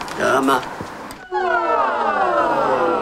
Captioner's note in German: Stimmübungen